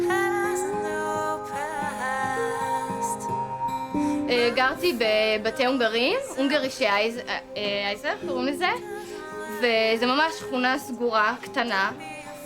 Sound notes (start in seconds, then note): 4.3 speaking in foreign language